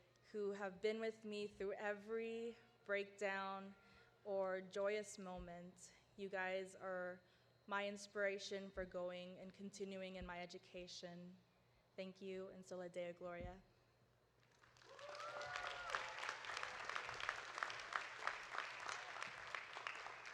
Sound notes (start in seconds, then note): 12.4 speaking foreign language; 14.5 audience applauding; 14.8 audience cheering